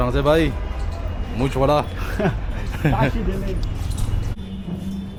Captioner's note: laughing